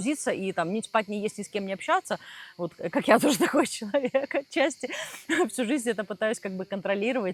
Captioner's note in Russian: смех